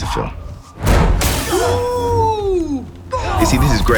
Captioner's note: explosion